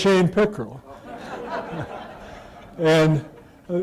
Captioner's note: laughter